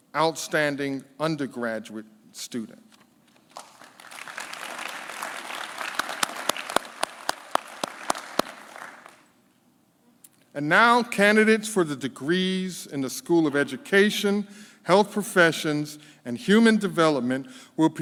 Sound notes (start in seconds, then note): 3.5 claps